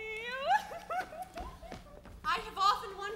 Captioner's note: Constance cries